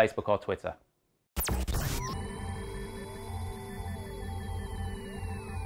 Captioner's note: electronic buzzing